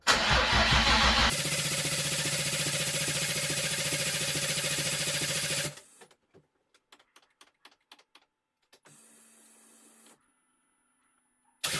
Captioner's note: engine starting